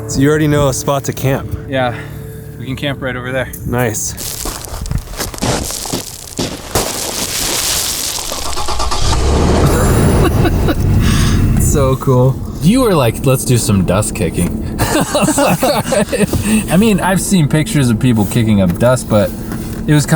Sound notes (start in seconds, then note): 6.7 dirt rustling; 8.8 car engine humming; 9.6 laughs; 14.7 both laughing